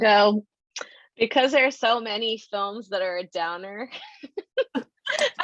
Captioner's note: chuckle